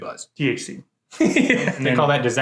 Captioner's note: laughing